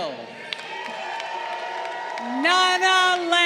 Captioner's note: crowd cheering